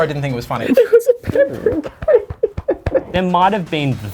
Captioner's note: both sobbing